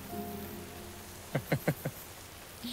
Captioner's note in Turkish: Gülüyor